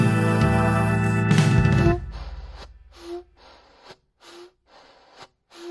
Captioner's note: dramatic gospel organ music; heavy puffs and horn beeps